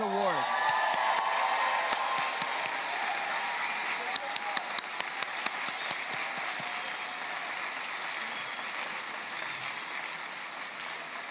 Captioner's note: applause